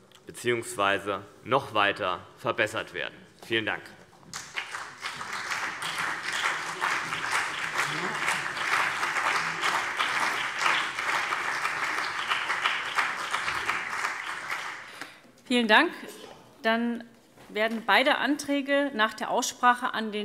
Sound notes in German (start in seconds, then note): 4.3 Beifall CDU und BÜNDNIS 90/DIE GRÜNEN